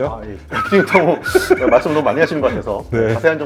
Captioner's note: panicking, Panicking